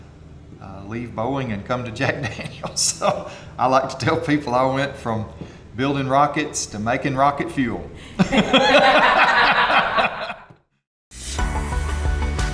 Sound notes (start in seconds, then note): 2.2 chuckles; 8.1 collective Laughter